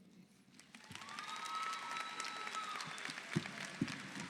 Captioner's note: audience applauding